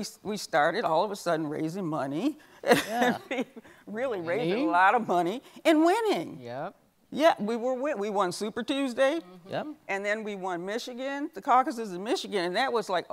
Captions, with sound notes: we started all of a sudden raising money. (laughs) Really raising a lot of money and winning. Yet we were winning, we won Super Tuesday and then we won Michigan. The Caucuses in Michigan, that was like,